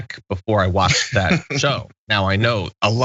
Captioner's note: laugh